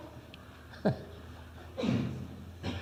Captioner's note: laughs